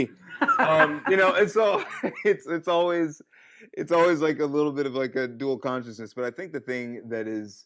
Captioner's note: laughter